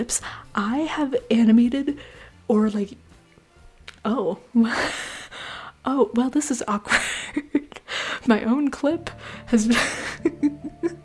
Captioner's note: gasps; laughter